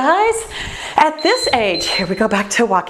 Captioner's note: timer beeps